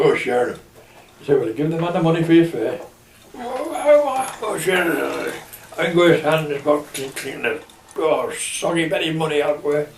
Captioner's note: drunken muttering